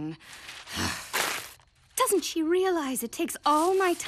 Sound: groaning

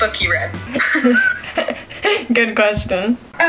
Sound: both laugh

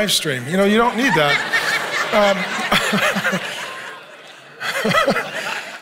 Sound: congregation laughing; Pastor Mark laughing

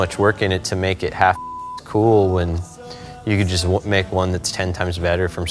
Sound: beep

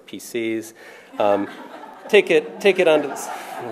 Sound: laughter

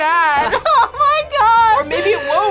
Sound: laughs

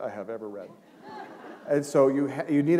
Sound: laughter

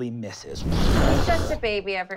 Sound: wooshing

